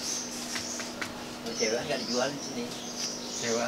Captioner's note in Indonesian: Suara Orang